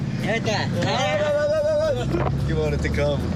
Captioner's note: speaking In Foreign Language